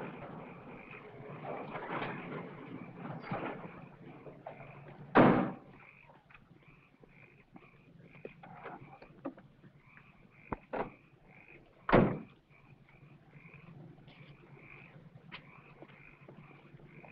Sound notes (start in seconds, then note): 1.1 frogs croaking; 7.1 car doors slam shut